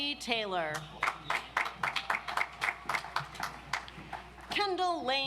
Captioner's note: audience applauds